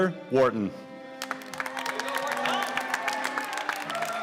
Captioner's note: applause